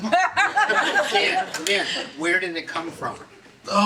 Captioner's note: audience laughing